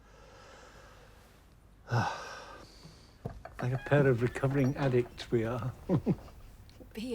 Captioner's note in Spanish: suspiros